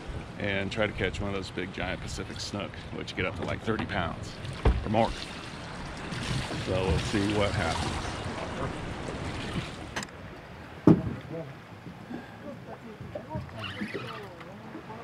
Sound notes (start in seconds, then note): 7.4 fish splashing; 12.0 background chatter; 13.5 reel cranking